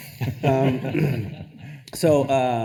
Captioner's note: attendees laughing